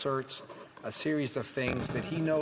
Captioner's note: speaking French